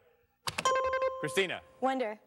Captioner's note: bing